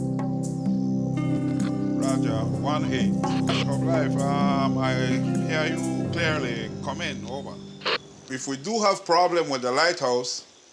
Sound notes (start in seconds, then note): 2.6 foreign language spoken